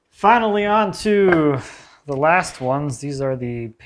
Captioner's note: board clacking